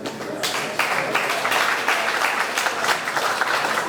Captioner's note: audience clapping